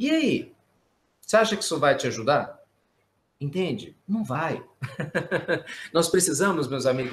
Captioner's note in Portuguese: risos